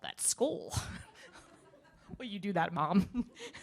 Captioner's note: audience laughing